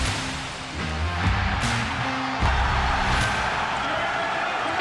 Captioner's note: crowd cheers